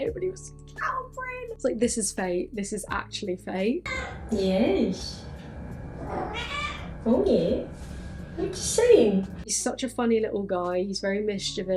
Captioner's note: mer-ow!